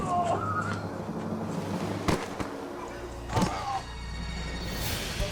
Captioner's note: victim thuds and groans